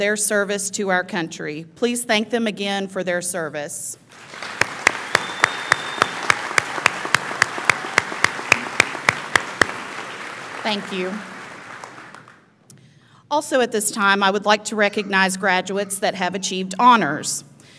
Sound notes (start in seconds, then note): 4.1 audience applauds; 4.2 audience cheers